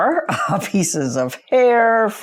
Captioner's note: chuckles